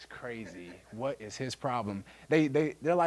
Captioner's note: audience laughing